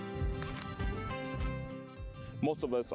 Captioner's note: camera clicking